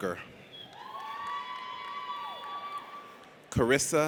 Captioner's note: audience cheers